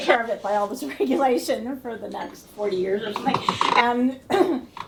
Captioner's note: laughter